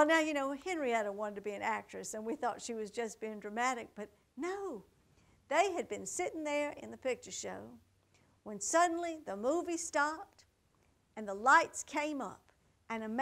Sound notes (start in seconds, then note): none